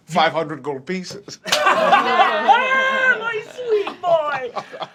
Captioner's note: laughs